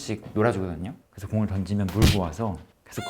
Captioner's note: smack